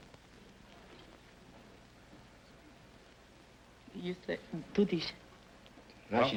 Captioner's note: whispering